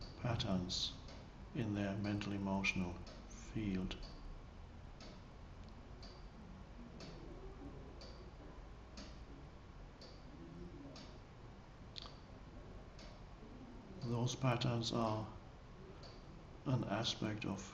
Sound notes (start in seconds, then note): 5.1 clock ticking